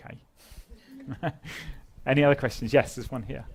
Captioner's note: laugh